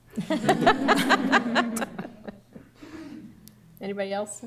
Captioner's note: laughter